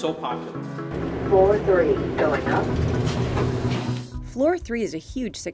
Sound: elevator voice

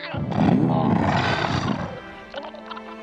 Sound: growling

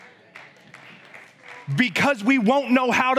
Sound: congregation applauds

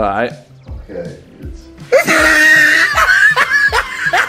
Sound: laughing

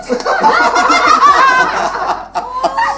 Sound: laughter

